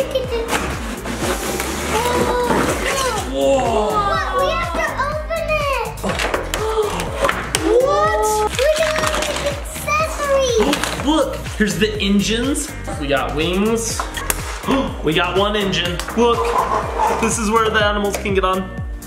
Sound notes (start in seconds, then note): 6.6 adults gasp; 14.6 gasps